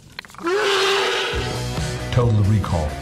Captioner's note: dramatic music; creature roaring